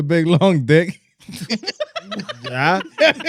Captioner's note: laughing